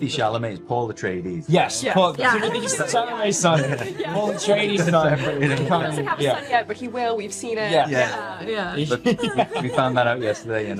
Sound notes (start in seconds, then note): 5.0 laughing